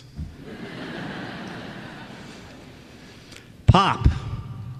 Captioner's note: laughter